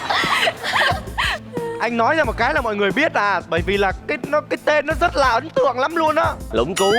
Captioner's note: laughing